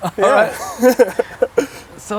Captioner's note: laugh